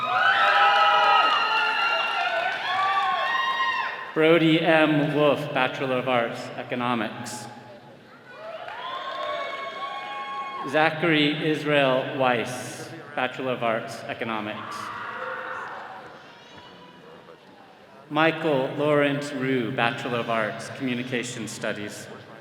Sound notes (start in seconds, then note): 0.0 all cheering; 8.2 attendees cheering